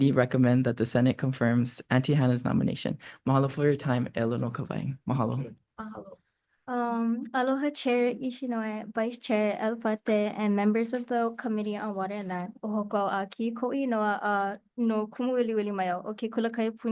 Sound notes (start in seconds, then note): 4.5 speaks Hawaiian; 12.9 speaks Hawaiian